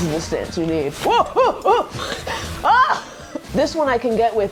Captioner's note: panicked shouting